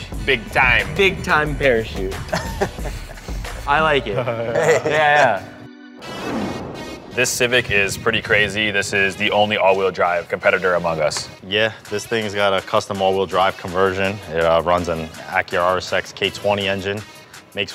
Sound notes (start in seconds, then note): 2.1 laughs; 4.4 both laugh; 6.2 intense electronic music